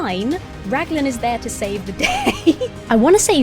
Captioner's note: laughing